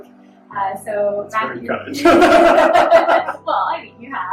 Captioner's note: laughs